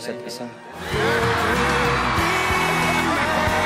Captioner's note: crowd cheering and background music